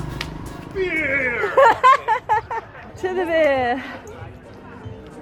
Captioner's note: laughing